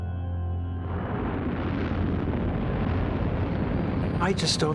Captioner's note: rocket launching